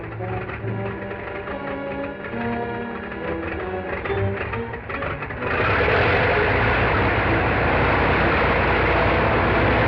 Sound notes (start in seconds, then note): 5.1 plane whirring